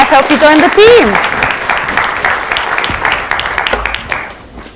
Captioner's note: applause